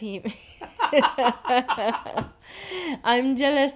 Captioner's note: both laugh